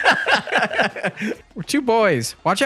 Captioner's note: both laughing